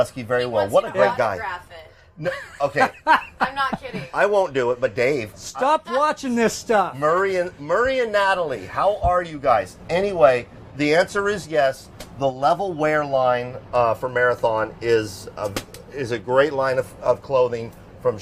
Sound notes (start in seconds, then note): 2.2 laughing